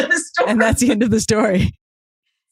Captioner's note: laughing